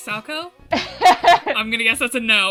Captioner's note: laughs